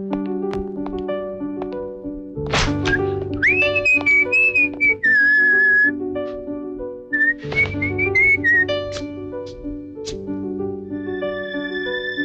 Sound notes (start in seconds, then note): 2.8 whistling